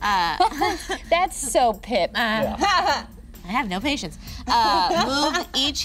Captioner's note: laughs